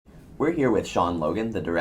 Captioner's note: voiceover